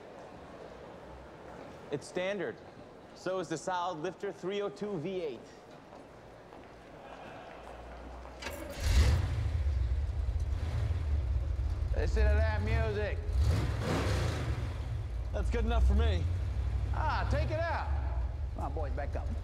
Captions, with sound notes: It's standard. So is the solid-lifter 302 V-8. [ Engine Roars ] Listen to that music. That's good enough for me. Ah, take it out. Come on, boys, back up.